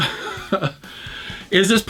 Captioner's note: laughs